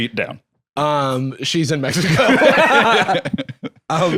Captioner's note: both laugh